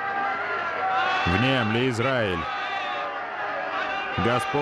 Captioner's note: crowd shouting